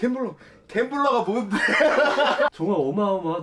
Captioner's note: hahahahahaha